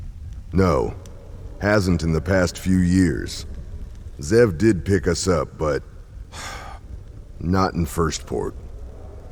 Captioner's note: sigh